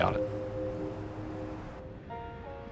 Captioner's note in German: Stadtgeräusche